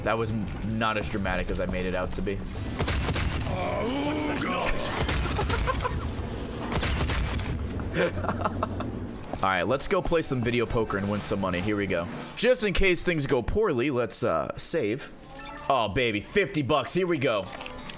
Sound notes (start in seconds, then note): 5.2 laughs